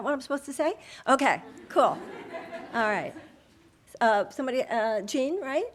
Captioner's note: audience laughing